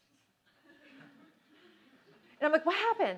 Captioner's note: laughter